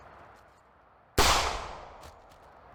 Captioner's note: gunshot